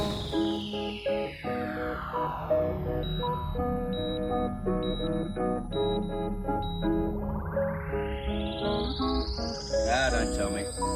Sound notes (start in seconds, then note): 0.3 playful music continues; 2.0 machine beeps